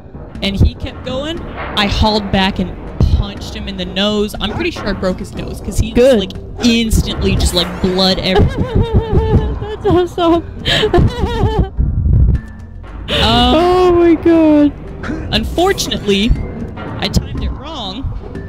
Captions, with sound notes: And he kept going. I hauled back and punched him in the nose. I'm pretty sure I broke his nose because... Good! instantly just, like, blood everywhere. (laughter) That's awesome! (laughter continues) Oh, my god. Unfortunately, I timed it wrong.